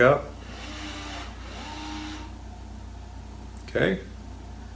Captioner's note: door lock whirring